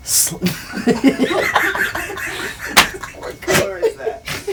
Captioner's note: man laughing